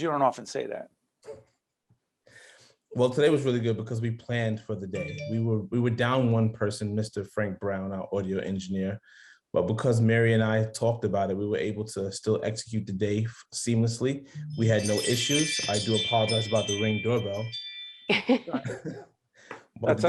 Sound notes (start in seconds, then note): 14.4 wind chimes; 18.3 laughing